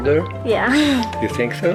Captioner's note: chuckles